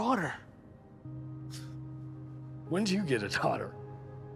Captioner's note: scoffs